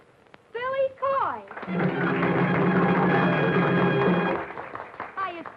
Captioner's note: audience applauding